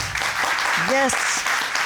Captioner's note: applause